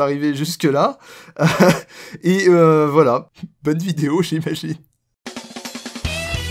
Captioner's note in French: Rire